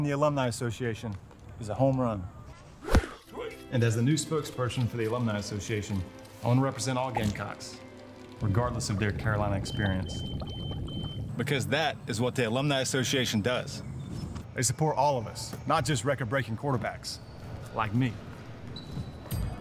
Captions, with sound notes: the alumni association is a home run. (whooshing) And as the new spokesperson for the alumni association, I want to represent all Gamecocks. Regardless of their Carolina experience. (smoke alarm beeping) Because that is what the alumni association does. They support all of us, not just record-breaking quarterbacks like me.